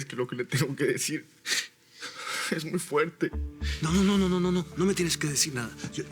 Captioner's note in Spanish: Sollozos